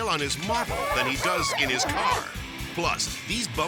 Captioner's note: slippery metal squeaking